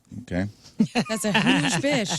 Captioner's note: laughing